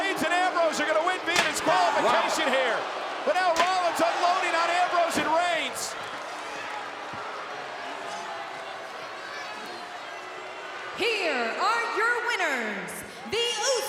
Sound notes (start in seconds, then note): 7.6 crowd boos